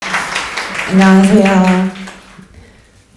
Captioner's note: applause